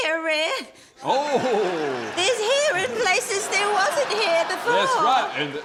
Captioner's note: chuckles